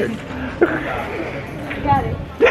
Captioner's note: lols